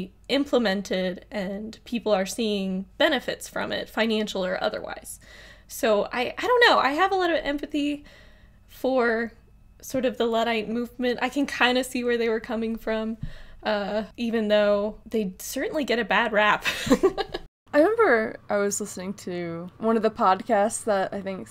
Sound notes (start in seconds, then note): 16.8 laughs